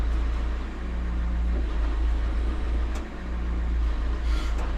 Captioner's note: engine purring